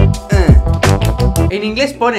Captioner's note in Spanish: aplaudiendo